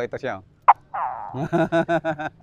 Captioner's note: mimics gecko sound